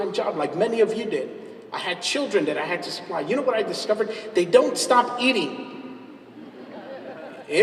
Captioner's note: laughs